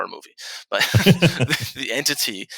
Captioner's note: chuckles; laughs